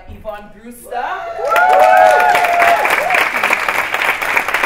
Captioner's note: cheering